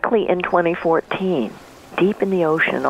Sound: waves wash in

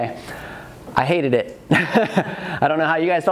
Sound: laughs; audience laughs

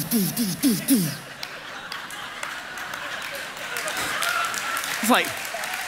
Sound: congregation laughing

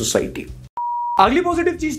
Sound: beep

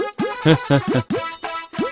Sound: chuckles

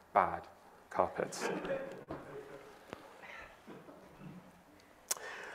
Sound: audience laughing

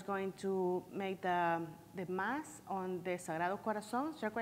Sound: foreign language

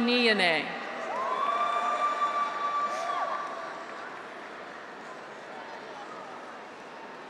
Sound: graduates cheer; audience applauds

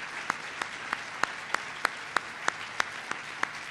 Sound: applause

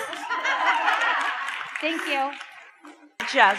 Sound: audience claps and cheers

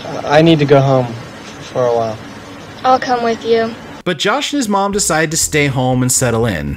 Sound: none

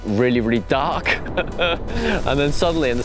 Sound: laughs

